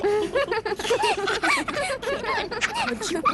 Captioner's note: all giggling; both giggle